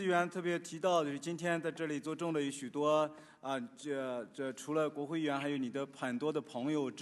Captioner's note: speaking Chinese